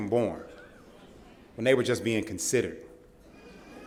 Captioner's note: laughter